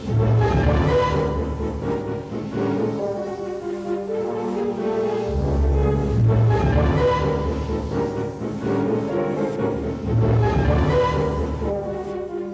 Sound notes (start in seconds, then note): none